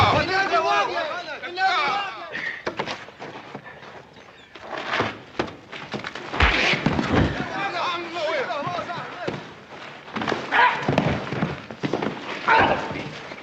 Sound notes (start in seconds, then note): 0.2 men shouting in native language; 6.4 scuffling & yelling; 10.1 exclaiming